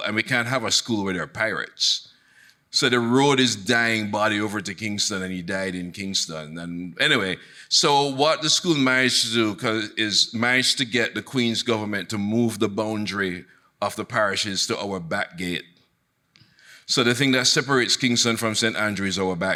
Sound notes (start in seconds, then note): none